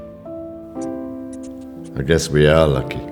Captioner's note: Jolly squeaks